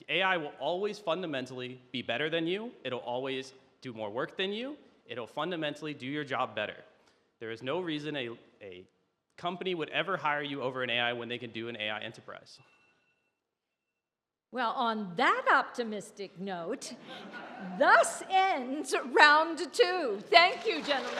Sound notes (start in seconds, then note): 12.9 alarm beeps; 16.9 audience laughs